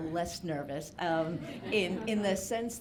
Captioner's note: audience laughing